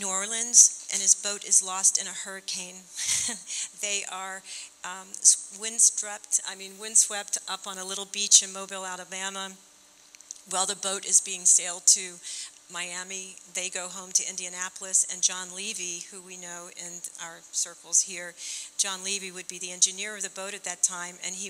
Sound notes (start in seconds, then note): 3.1 chuckling